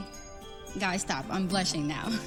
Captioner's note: chuckles